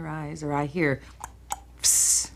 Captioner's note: tongue clicking